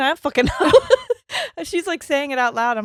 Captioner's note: laughing; chuckles